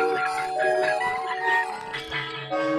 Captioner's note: intercom buzzing